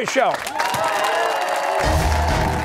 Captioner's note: cheers and applause